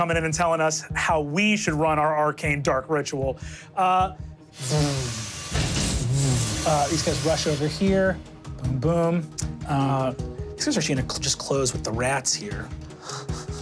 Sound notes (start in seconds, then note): 4.9 mimics electronics humming; 13.0 chuckles